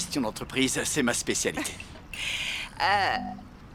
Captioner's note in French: rires